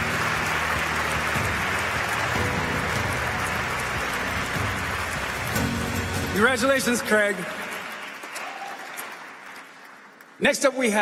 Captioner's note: applause